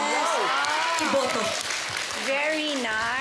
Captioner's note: cheering, applause